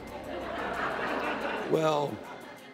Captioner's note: laughter